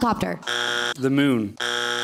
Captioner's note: bzzzt; bzzzzt